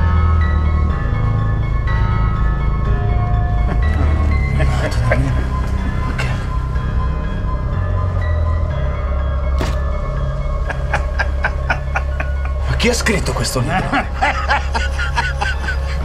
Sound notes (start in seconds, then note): 10.6 laughter